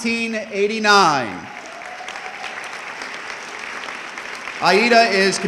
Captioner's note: audience clapping